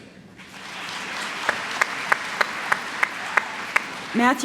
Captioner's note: applause